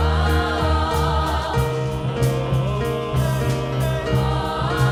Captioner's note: high voices singing; deep voices; high voices